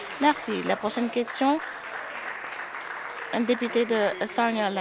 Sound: some Applause

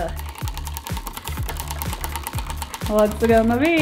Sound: wheel clicks

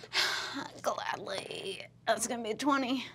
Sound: sighing

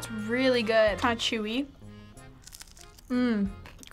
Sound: crunching

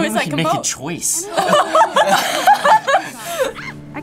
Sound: all laugh

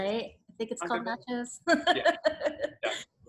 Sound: laughs

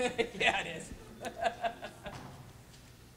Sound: chuckle

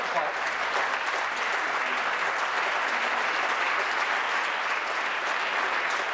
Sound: applause

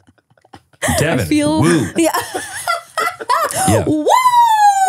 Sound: laughs

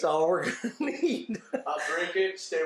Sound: laughs

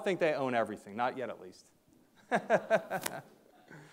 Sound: laughs

